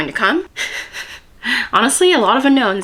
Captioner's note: pained laughter